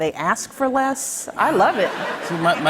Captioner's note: laughter